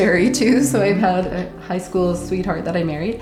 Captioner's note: chuckles